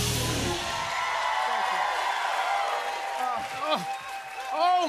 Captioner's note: cheers and applause